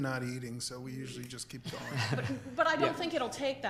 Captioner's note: board members laughing